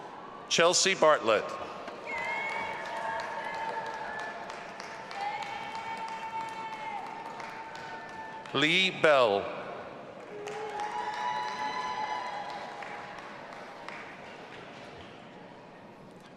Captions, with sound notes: Chelsea Bartlett. (audience applauding and cheering) Lee Bell. (audience applauding and cheering)